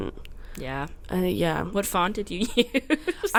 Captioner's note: laughs